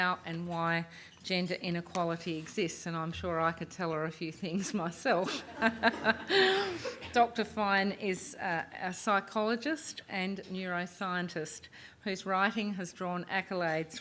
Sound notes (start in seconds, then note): 5.2 laughter